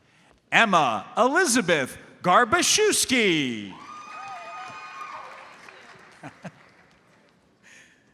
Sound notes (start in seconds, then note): 3.7 audience cheers and applauds